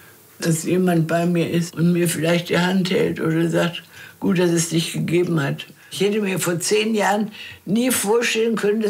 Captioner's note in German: none